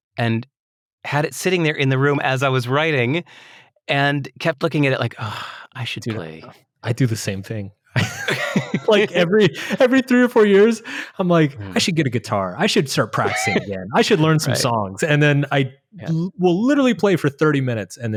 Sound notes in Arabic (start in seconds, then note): 7.9 يضحك